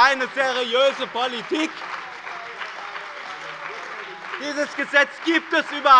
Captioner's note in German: Beifall bei dem BÜNDNIS 90/DIE GRÜNEN und der CDU